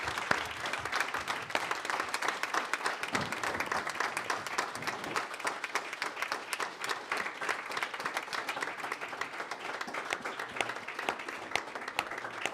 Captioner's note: applause